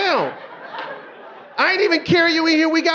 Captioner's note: audience laughing